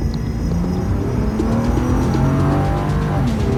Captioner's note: engine revving